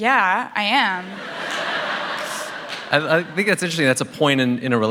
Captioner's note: laughter